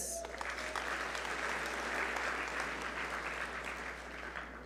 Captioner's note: audience applaud